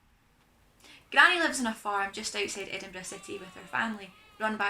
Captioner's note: sheep bleeting